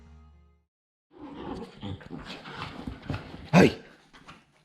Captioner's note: dogs groaning